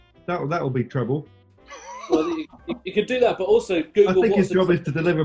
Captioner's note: laughing